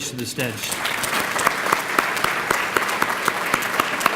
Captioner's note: applause